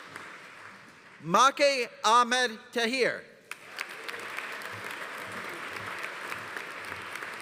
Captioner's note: audience applauding